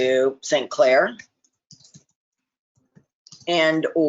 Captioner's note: keyboard typing